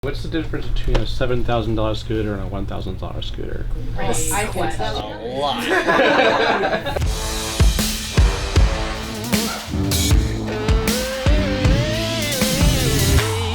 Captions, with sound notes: - What's the difference between a $7,000 scooter and a $1,000 scooter? - I can tell. - It's a lot. (laughing) (upbeat music)